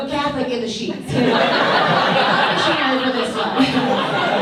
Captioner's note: audience laughs